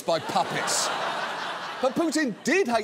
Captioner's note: laughter